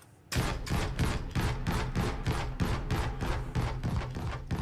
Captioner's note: gunshots